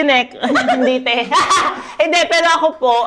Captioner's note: laughs